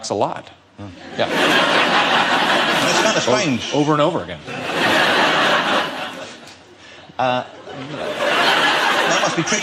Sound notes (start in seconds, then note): 0.9 audience laughing